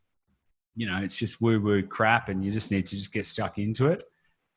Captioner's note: none